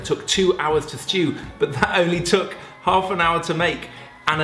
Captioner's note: laughs